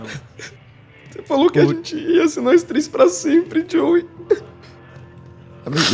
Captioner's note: crying